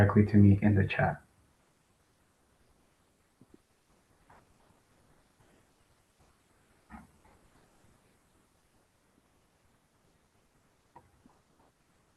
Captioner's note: pause